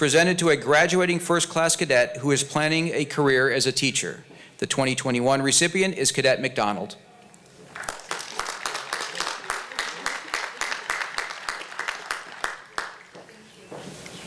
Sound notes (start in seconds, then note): 7.7 applause